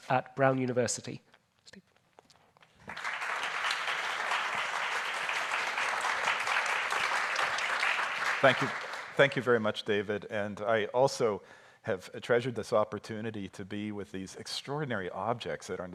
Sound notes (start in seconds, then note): 2.8 audience applauding